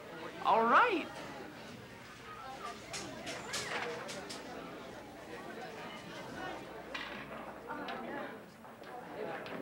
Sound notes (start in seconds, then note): 3.0 students chattering